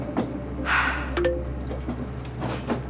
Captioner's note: computer chimes